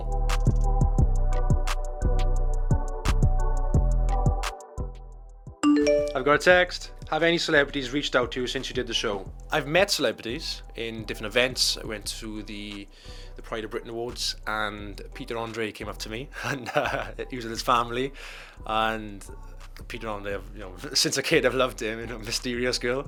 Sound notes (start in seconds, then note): 5.6 phone ping sound